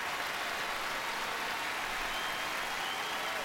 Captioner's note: cheering continues